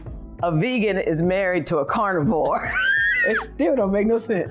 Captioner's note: laughs